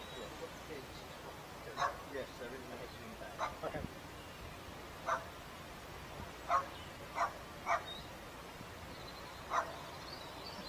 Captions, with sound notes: [Dog Barks - Small dog, think it was a Terrier of some sort] [Dog keeps barking] Paul says 'Okay'.